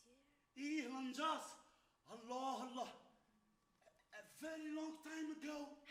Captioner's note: man speaks Arabic